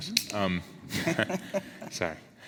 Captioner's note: laughs